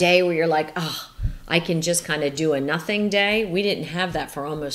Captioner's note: sighs